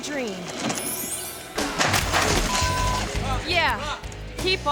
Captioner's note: thuds